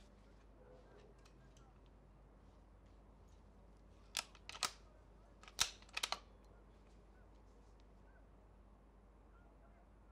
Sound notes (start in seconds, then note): 5.4 gun cocking